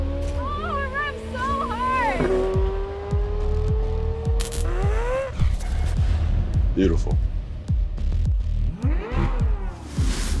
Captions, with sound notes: Oh, it revs so hard! (engine revving) (intense music) Beautiful. (engine revving)